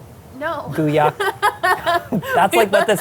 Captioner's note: laughs